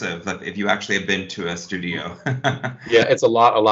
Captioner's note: chuckles